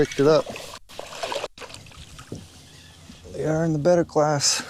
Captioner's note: water splashing